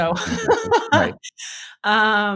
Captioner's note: laughing